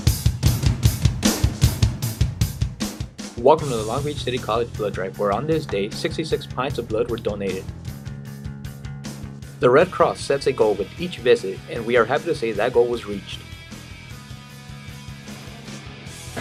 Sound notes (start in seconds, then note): 3.5 voiceover